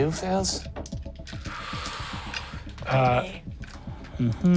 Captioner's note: inhales